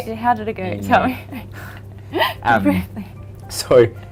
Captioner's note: laughing